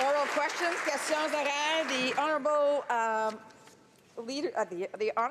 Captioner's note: applause